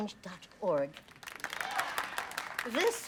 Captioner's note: applauding